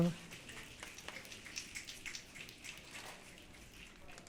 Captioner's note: audience clicking